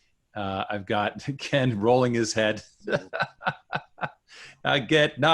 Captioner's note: chuckling